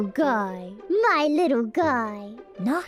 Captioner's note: in bot's voice